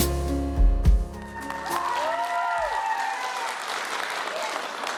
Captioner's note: applause